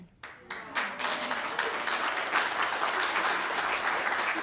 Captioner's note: audience applauding